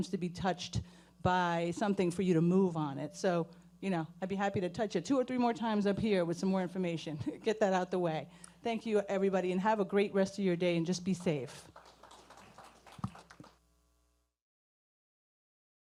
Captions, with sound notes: to be touched by something for you to move on it. So, I'd be happy to touch it two or three more times up here with some more information. Get that out the way. Thank you everybody, and have a great rest of your day and just be safe. (audience applauding)